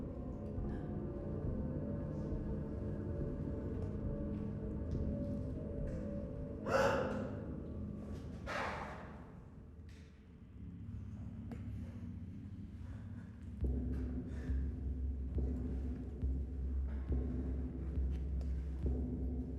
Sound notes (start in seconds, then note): 6.7 Shauna gasping sharply; 8.3 object clattering quietly; 14.0 soft ominous music